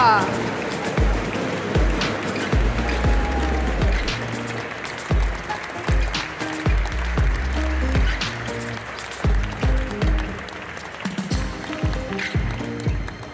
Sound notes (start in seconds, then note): 0.0 applause; 0.8 ♫ Midtempo guitar music ♫